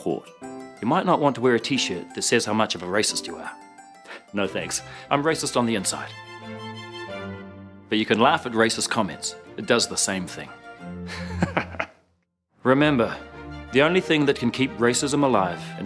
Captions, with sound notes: You might not want to wear a t-shirt that says how much of a racist you are. No thanks, I'm racist on the inside. But you can laugh at racist comments. It does the same thing. (laughs) Remember, the only thing that can keep racism alive